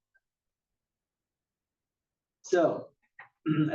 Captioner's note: cough